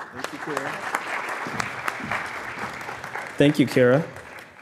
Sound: audience clapping

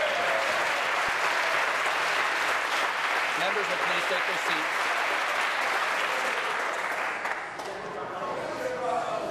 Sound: applause

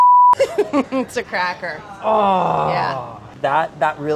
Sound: moans resentfully

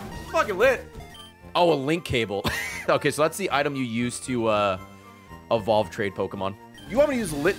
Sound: laughs

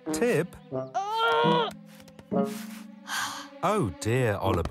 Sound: Tib groans

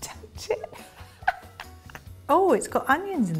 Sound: laughs

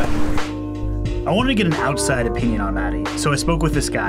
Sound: voiceover

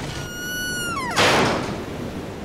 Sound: door slams shut

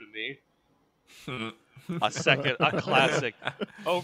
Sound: laughter

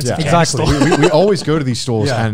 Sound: laughs

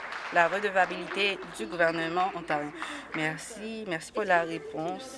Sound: applause

